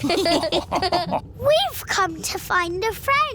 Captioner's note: all laughing